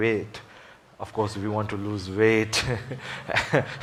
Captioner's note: laughs